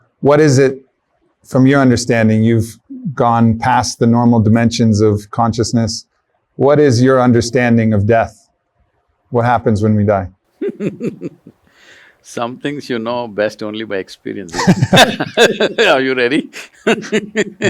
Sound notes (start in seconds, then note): 10.6 Sadhguru laughs; 14.5 laughter